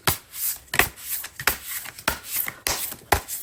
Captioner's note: drawing cards